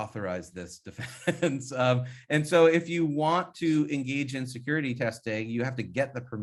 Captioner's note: laughs